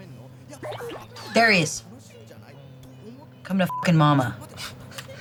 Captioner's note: beep